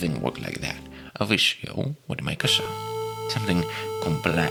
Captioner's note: A crazy square wave sound plays